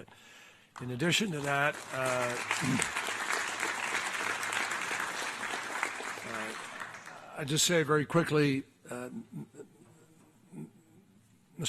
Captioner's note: applause